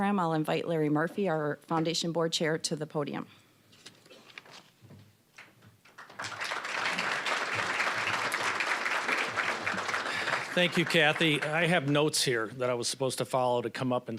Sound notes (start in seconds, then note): 5.9 applause